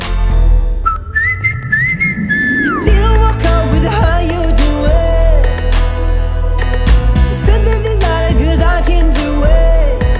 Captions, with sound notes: (whistling) He didn't walk up with that "how you doin'? He said there's a lot of girls I can do with